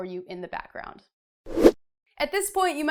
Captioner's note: air whooshing